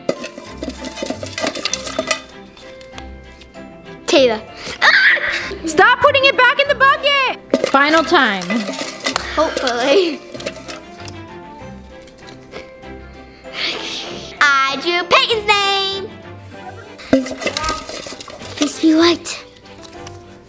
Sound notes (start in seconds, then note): 0.0 metal bucket clanking; 2.7 uplifting Christmas music; 4.9 screams; 10.6 uplifting Christmas music; 13.7 sighs; 16.8 metal bucket clanking; 20.2 uplifting Christmas music